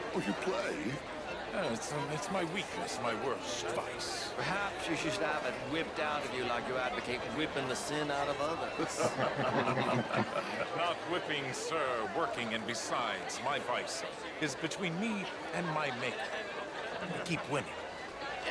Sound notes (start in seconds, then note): 8.0 they laugh